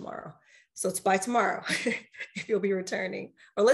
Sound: laughs

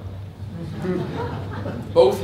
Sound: laughter

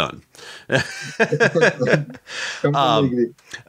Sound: laughing

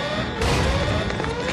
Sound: door slams; clatter of running feet

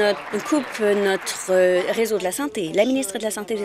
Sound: applause

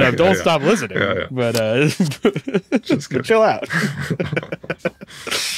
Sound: laughs; hosts laughing

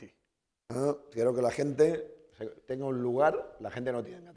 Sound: speaking spanish

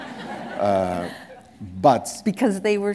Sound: laughter

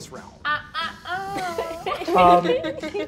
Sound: all laugh

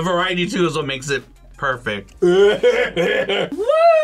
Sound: coughs

